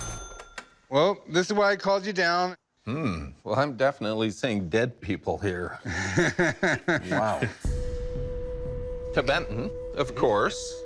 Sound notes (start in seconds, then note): 5.8 Chumlee laughs